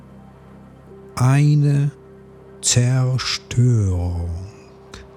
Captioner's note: german